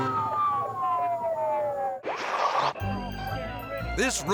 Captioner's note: sirens wailing